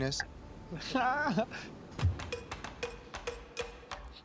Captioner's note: laughs